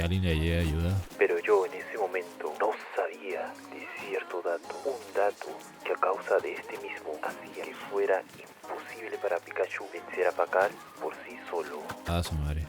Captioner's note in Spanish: Voz en off